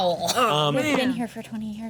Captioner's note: overlapping chatter